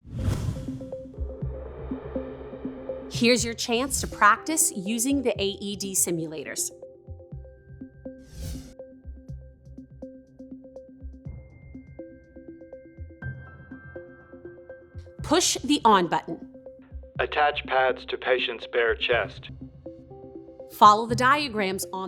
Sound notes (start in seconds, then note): 0.0 line whooshes; 0.1 tense music; 8.4 words whooshing